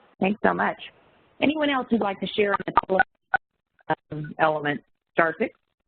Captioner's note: audio skips and warps